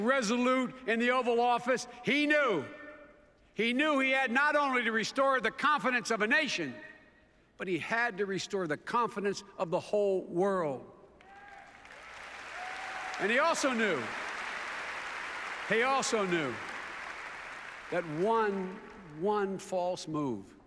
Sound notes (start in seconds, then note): 11.2 applause